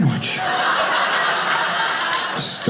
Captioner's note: audience laughing